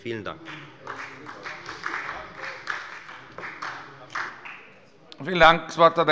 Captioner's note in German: Beifall bei der FDP